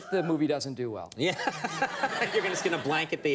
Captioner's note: laughs